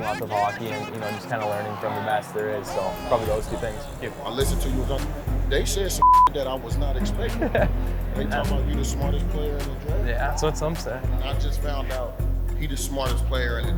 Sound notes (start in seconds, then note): 6.0 beep